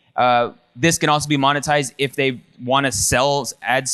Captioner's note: none